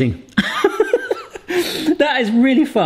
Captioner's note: laughs